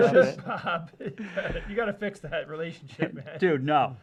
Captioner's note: laughs